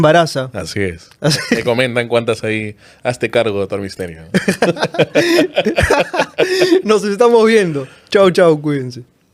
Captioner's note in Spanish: risas